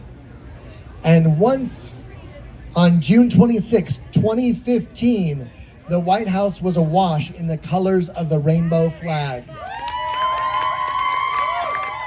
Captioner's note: applause